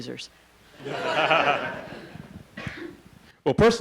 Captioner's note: laughing